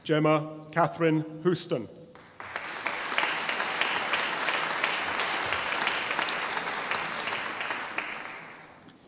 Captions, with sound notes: Gemma Catherine Houston (audience applauding)